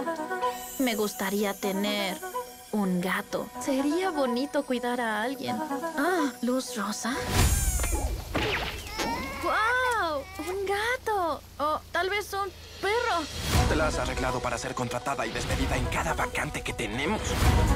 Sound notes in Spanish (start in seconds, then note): 8.2 golpe seco, rebote; 8.8 llanto